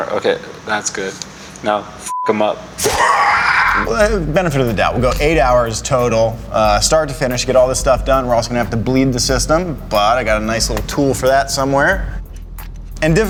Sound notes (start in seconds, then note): 1.9 beep